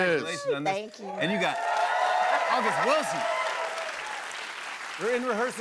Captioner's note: cheers and applause